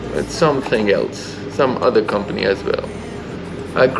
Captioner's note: motorcycle